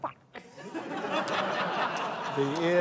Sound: laughter

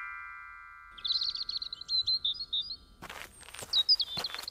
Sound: birds chirping

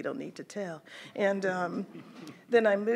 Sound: chuckles

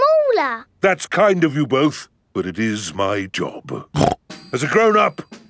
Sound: snorts

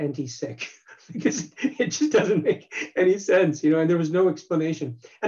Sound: laughs

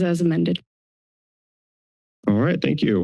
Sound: silence

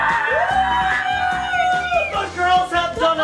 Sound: both cheering

